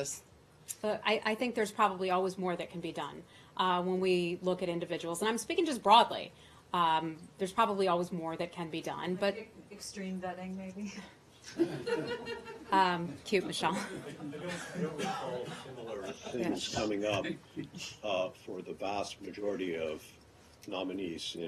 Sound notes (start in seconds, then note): 11.5 laughter